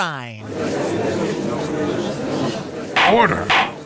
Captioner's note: gallery chattering